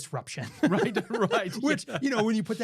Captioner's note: laughing